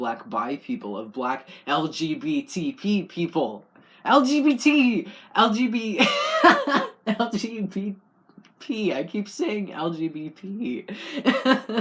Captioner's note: laugh